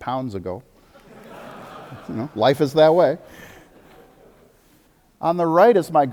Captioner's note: audience laughter